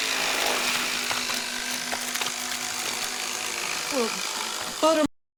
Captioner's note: flesh tearing